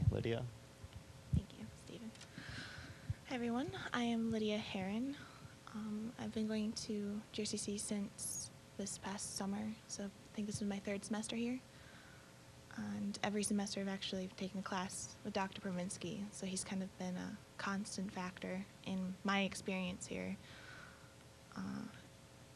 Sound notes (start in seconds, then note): none